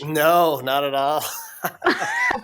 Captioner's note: laughs